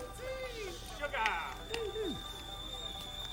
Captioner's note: tea kettle whistling